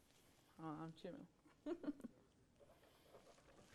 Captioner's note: chuckles